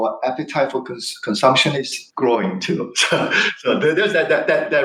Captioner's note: laughs